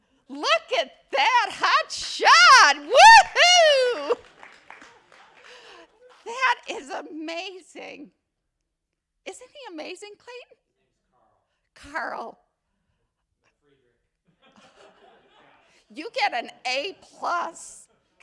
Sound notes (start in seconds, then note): 4.0 attendees applauding; 14.4 attendees laugh